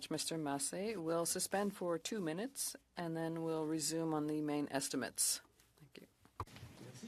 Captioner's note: speaking French